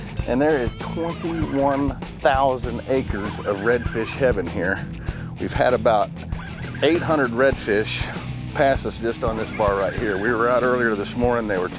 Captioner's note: laugh